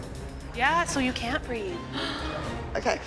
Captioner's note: gasps